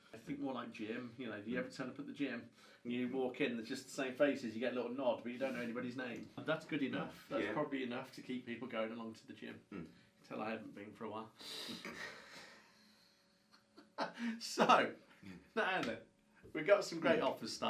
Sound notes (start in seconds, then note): 11.8 both laugh